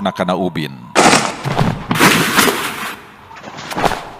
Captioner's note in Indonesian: suara badan-badan jatuh